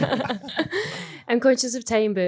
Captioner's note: everyone laughing